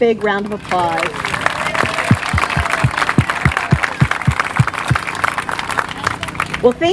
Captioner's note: applause